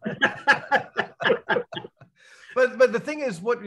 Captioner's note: all laugh